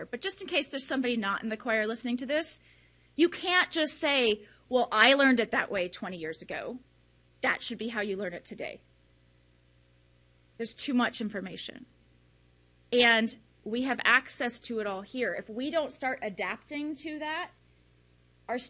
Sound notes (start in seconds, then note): none